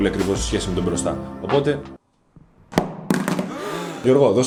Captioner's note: mobile phone falls